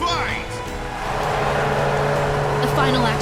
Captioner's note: gong